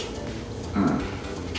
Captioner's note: annoyed grunt